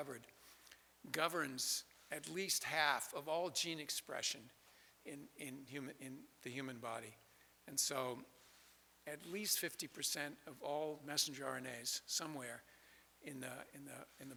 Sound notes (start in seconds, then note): none